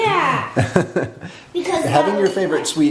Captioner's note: laughing